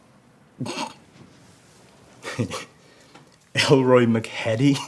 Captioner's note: officer snickers